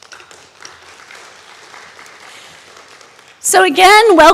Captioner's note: audience applauding